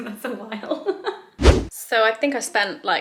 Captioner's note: whooshing sound